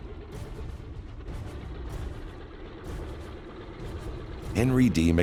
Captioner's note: airplane engine roaring